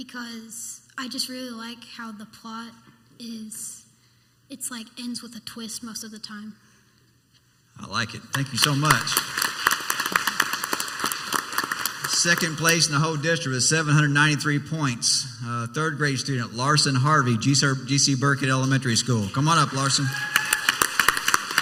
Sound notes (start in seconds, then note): 10.2 clapping